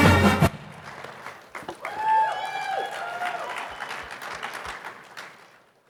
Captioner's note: audience applauding